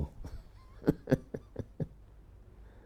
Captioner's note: laughs